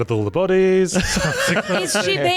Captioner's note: laughing